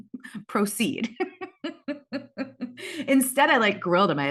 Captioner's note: laughs